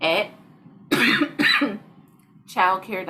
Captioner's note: lady coughing